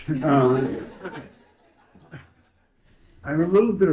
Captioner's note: audience laughing